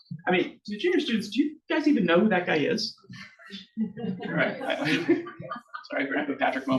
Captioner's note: audience laughs